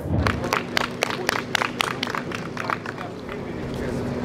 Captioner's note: applause